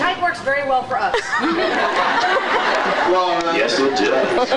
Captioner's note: laughs